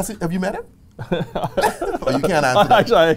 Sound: laughs

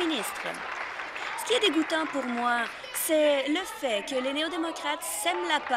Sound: applause

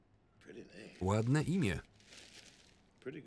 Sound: plastic crinkling

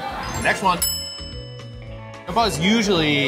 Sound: bell dings

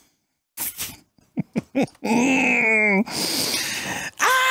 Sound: deep breath

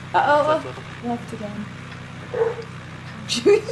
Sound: dog barking

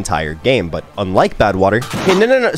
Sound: vat clanks

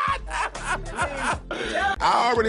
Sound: latrice laugh

